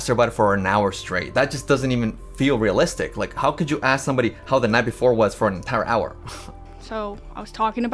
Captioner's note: chuckles